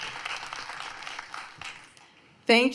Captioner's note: applause